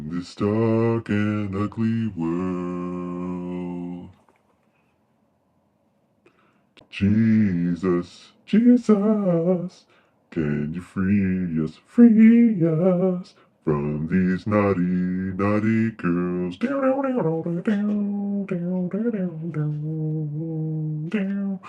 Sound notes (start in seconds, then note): 17.1 killer hums